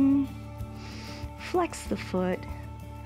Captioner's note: inhales